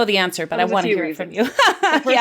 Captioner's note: laughs